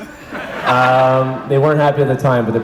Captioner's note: audience laughs